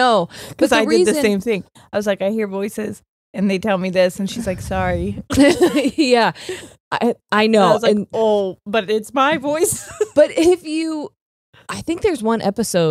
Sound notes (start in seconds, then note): 5.3 both laughing; 9.2 laughs